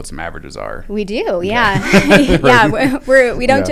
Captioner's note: laughter